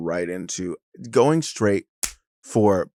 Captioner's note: slaps hands